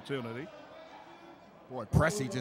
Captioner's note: yelling